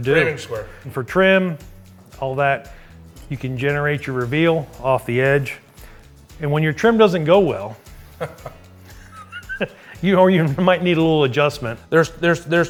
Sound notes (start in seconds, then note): 8.1 laughing